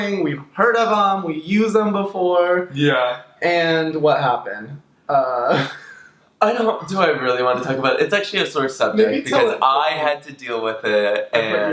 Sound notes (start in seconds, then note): 5.4 laughs